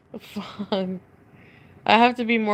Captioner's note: laughs